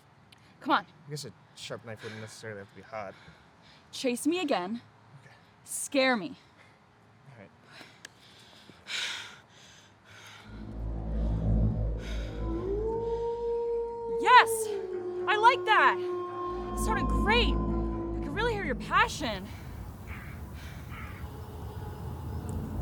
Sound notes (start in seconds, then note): 8.5 panting; 12.5 wolf howling; 19.4 crows cawing